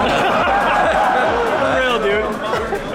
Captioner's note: audience laughs